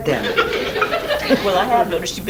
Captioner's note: audience laughs